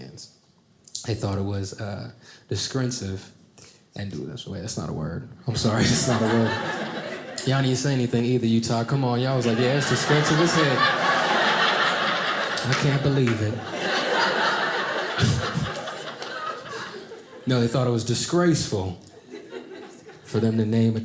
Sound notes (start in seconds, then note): 10.7 audience laughing; 13.4 audience laughing